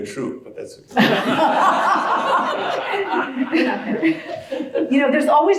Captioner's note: laugh